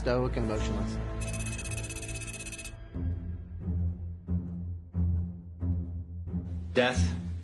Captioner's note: pulsating music; rapid electronic beeps